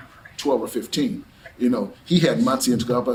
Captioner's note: laughs to self